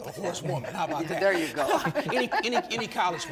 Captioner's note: chuckles